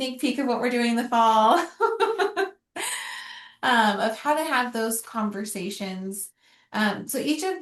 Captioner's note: laughter